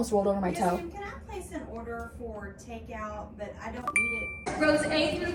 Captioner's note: apple pay sound effect